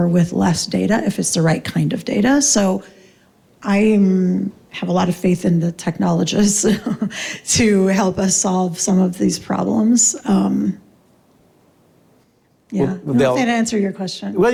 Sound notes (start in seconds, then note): 6.6 laughs